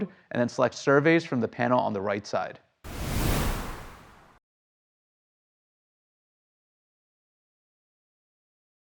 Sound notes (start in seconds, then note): 2.8 air whooshes